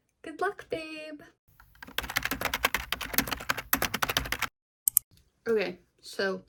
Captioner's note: keyboard typing noises